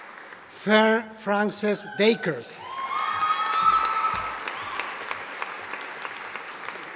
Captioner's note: audience applauding